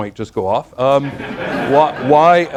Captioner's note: laughter